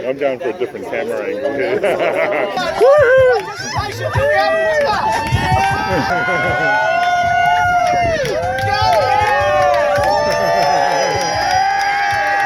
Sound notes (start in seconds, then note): 4.9 hoots and music